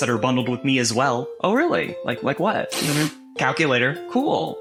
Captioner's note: blows raspberry